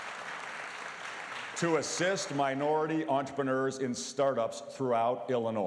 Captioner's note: applause